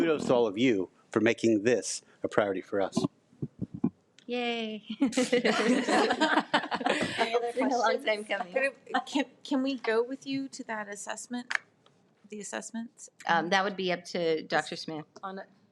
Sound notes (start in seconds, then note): 5.0 people laugh